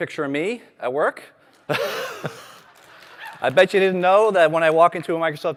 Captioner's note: laughter